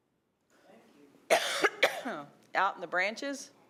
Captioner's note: coughing